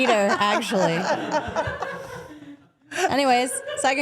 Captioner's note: Steph and people off camera laugh